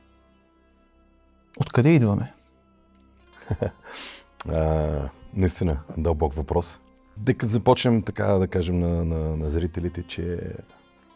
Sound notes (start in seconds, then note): 3.4 laughter